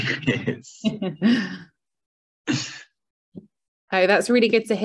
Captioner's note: chuckles